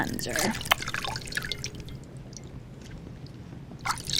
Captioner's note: water splashing